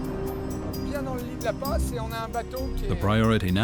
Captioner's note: speaking French